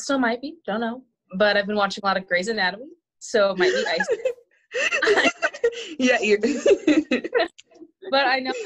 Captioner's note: laughter